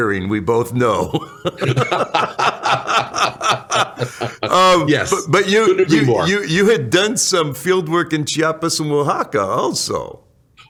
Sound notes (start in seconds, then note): 1.0 laughter